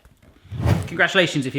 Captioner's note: whooshing